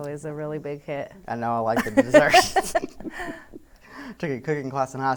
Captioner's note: laughs